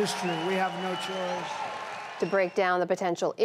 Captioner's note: cheering and applause